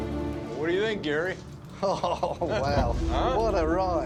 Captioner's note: chuckling